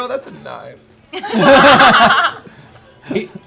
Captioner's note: laughter